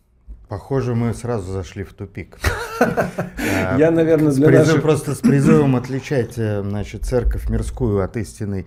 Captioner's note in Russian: смех